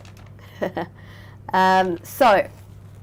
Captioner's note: chuckling